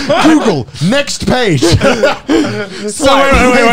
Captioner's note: both laugh